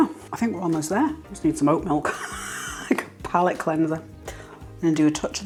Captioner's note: laugh